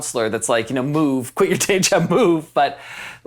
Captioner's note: chuckles